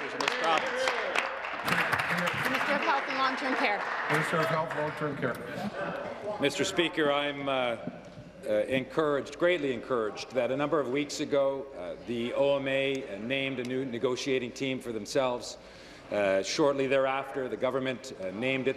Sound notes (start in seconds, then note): 4.8 applause